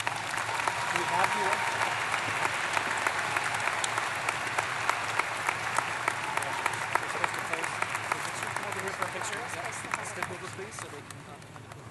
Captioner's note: applause